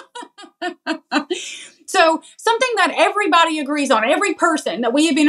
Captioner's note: laugh